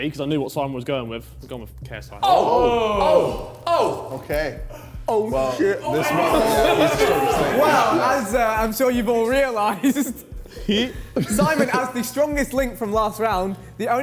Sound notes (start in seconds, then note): 2.3 men shouting; 5.0 men chattering; 9.8 laughs